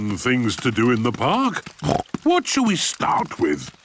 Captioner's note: snorts